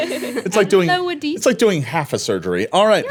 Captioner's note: laughing